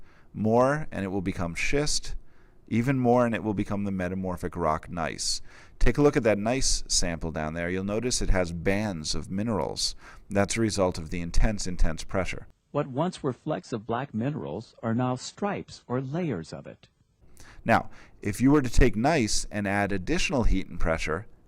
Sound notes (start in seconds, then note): 17.3 inhale